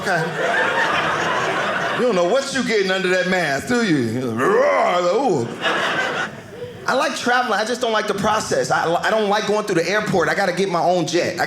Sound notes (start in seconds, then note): 0.0 audience laughing; 4.2 growling